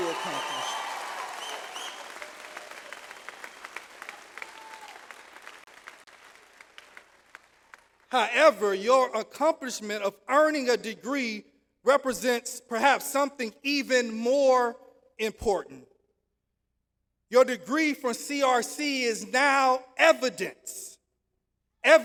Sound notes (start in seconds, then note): 2.3 audience applauds